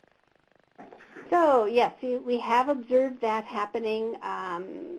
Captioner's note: voiceover